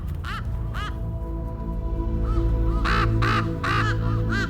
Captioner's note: ravens cawing